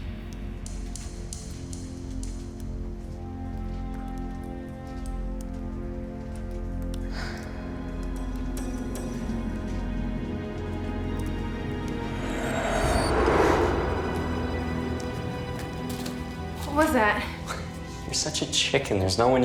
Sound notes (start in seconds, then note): 0.2 suspenseful music; 7.2 Candace re-enactor gasping; 13.3 swooshing